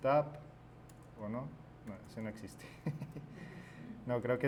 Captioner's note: chuckles